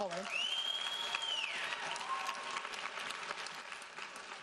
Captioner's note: audience applauding